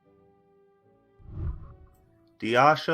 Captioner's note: whooshing